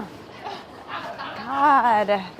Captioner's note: all laughing